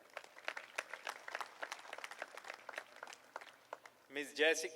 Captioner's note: applause